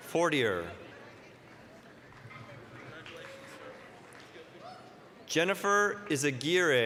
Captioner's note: applause